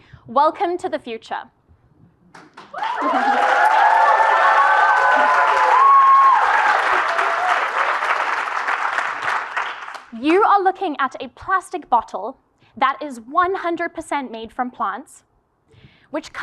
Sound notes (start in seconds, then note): 2.4 applause